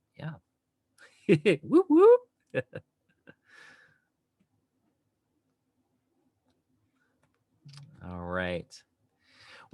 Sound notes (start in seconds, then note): 2.5 chuckles